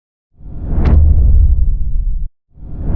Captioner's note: powerful whoosh sound